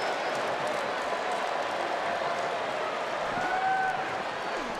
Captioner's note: crowd applauding